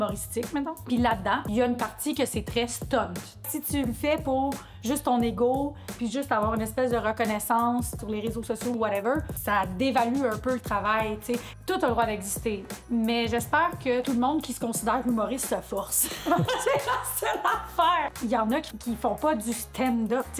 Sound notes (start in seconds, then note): 16.1 laughs